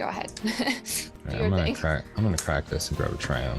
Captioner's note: laughs